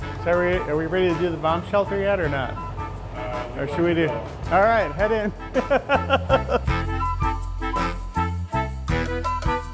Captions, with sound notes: So are we ready to do the bomb shelter yet, or not? Or should we do..? All right, head in. (laughing) (playful music)